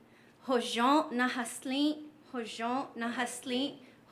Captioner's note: speaking navajo